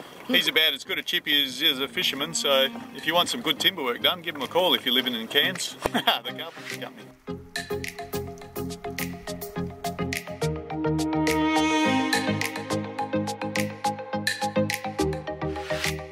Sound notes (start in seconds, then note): 5.7 laughs; 8.9 bright techno music